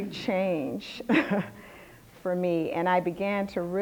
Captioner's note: laughter